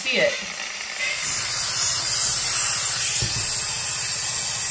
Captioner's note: steam hissing